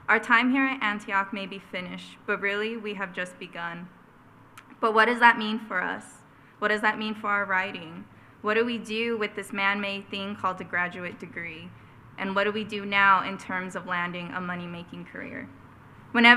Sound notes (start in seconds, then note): none